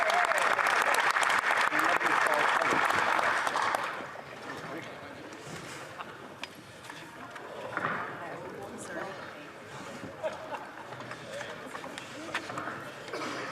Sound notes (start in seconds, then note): 2.5 applause